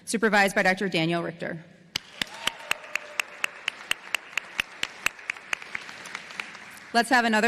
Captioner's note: applause